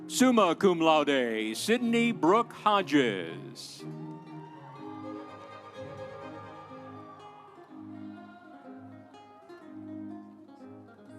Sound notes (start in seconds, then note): 4.6 audience cheering; 4.6 instrumental music